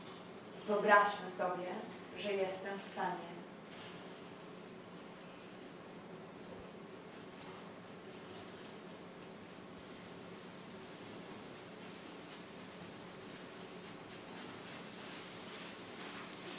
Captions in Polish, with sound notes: Wyobraźmy sobie, że jestem w stanie. [odgłos obwąchiwania]